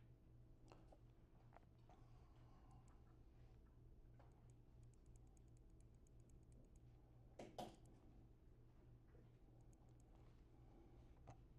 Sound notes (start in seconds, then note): 2.1 mouse clicks